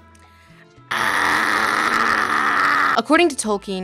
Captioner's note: Lindsay screams more